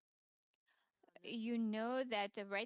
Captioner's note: speaking French